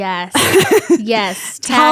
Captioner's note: laughs